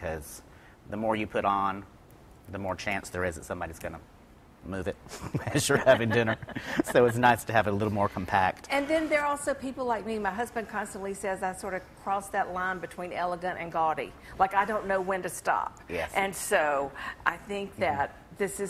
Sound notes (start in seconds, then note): 5.1 chuckles